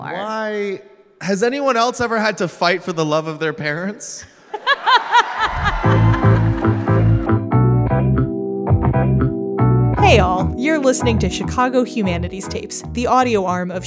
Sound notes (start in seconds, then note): 4.4 audience Laughter; 5.4 bouncy and funky theme music plays